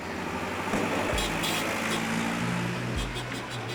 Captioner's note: honking